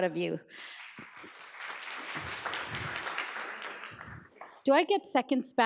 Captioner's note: audience applauds